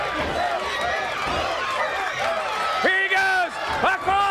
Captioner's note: crowd cheering